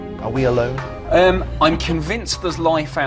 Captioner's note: voiceover